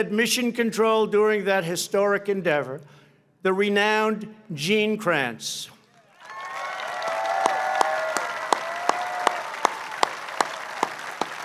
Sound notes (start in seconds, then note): 6.1 applause